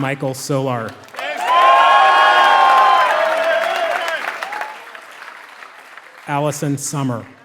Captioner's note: applause